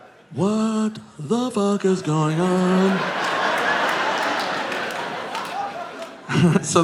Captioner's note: audience laughing